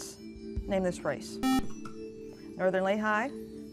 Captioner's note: buzzer